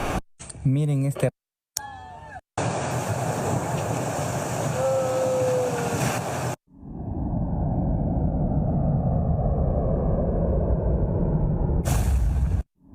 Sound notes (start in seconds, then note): 0.1 foreign language; 2.4 yawns